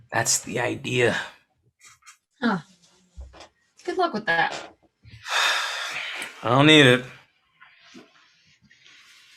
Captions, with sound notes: - That's the idea. - Good luck with that. (Agent sighing) - I don't need it.